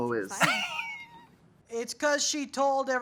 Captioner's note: Katya laughs